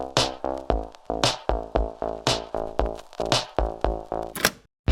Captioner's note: cassette player clicks open